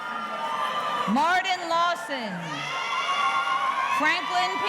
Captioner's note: audience cheering